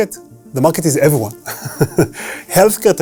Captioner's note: laughs